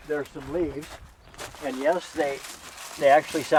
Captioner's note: leaves crinkling